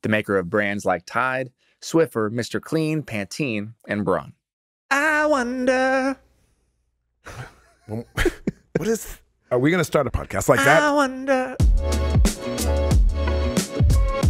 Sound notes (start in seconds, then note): 7.2 chuckles; 10.5 upbeat music